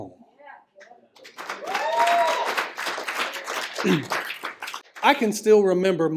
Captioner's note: applause